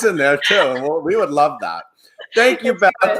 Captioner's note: laughing